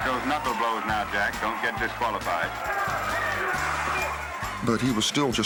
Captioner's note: crowd cheering